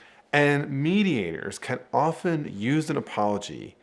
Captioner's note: none